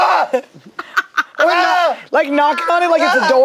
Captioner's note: laughs